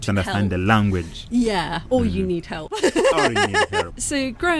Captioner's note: laughing